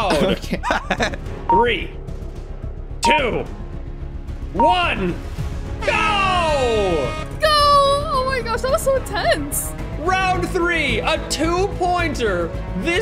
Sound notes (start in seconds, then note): 0.0 laughs; 3.0 timer beeps; 4.5 timer beeps; 6.3 air horn blares